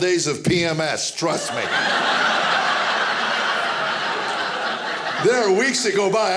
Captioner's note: audience laughing